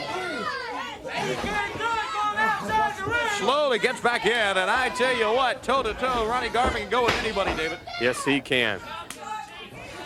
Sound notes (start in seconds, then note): 0.2 crowd chatter; 1.5 crowd cheering; 6.8 crowd cheering